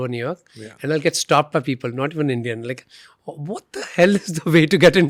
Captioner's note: laughs